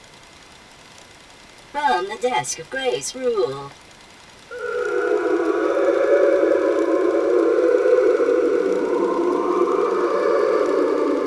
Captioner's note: whale song